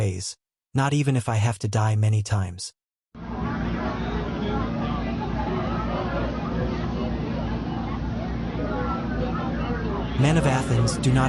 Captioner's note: muttering from audience